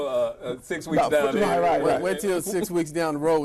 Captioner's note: laughter